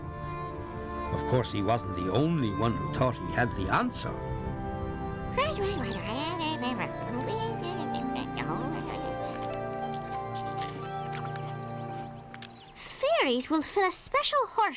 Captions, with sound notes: OF COURSE, HE WASN'T THE ONLY ONE WHO THOUGHT HE HAD THE ANSWER. [MUTTERING] [CHEWING] "FAIRIES WILL FILL A SPECIAL HORSESHOE